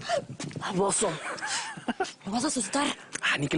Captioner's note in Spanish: Risas